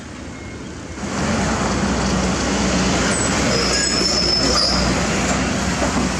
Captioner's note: traffic Rumble